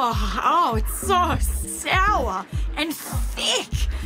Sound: drinks, gags

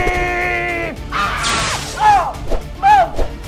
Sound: screaming; electrical buzzing

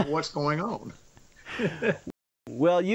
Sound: laughs

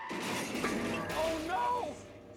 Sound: crash

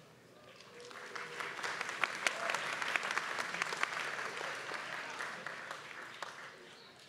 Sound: applause

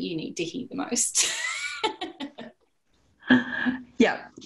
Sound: laughter

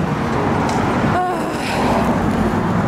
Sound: sigh

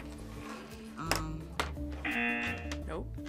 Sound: buzzer

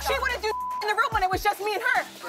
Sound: beep

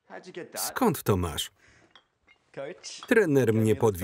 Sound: bottles clinking

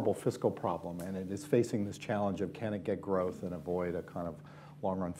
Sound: none

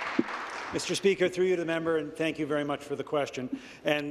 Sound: applause

